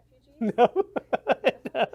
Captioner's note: laughs